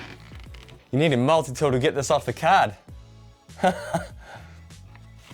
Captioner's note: laughs